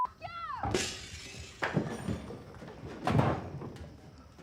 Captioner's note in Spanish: objetos chocando; vidrio rompiéndose